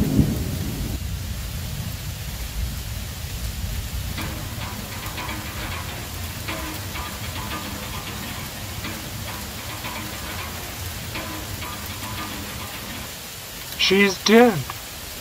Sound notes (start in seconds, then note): 4.1 instrument Playing; 4.4 rain Pouring